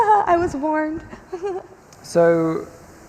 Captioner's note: chuckles